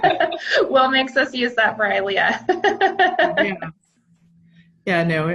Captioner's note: laughs